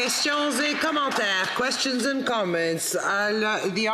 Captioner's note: applause